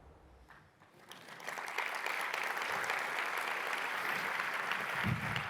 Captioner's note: audience clapping